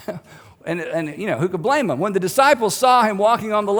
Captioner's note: chuckles